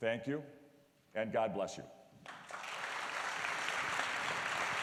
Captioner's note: applause